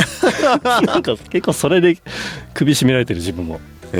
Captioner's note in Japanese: 笑い